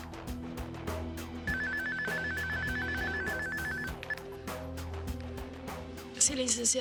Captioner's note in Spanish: Suena el celular